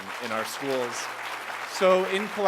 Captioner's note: applause